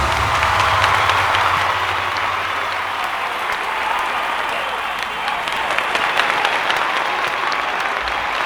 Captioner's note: applause